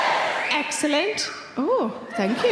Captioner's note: man wolf whistling; audience laughing